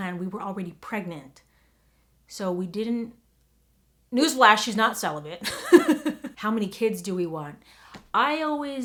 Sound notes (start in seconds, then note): 5.4 laughs